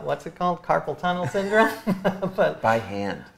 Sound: laughs

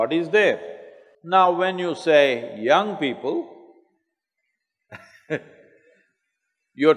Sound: laughs

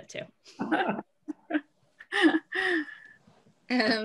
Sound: laughs

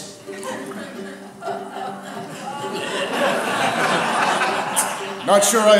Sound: audience laughter

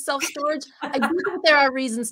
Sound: laughter

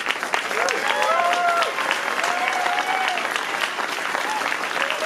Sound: audience applauses

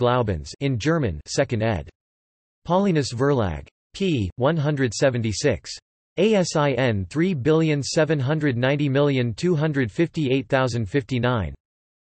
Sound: in German

